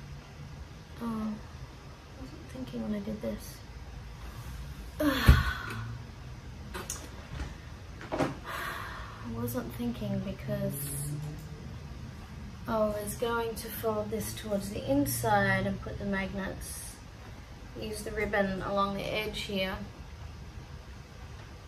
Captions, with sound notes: Oh. I wasn't thinking when I did this. [sighs heavily] [sighs] I wasn't thinking, because... I was going to fold this towards the inside and put the magnets - use the ribbon along the edge here